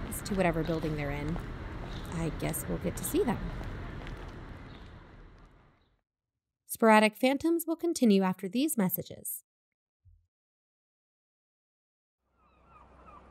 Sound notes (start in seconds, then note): 3.8 ambience fades